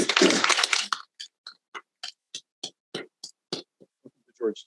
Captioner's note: all applauding